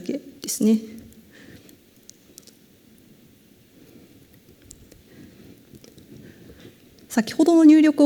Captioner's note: silence